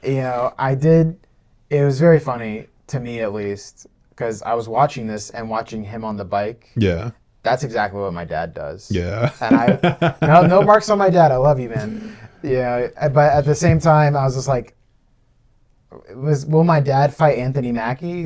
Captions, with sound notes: Yeah, it was very funny, to me at least, because I was watching this and watching him on the bike. That's exactly what my dad does. Yeah. (laughing) No marks on my dad. I love you, man. Yeah. But at the same time, I was just like, will my dad fight Anthony Mackie?